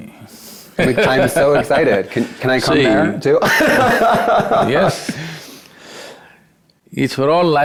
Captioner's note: laughs